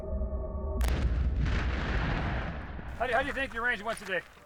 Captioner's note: bomb explodes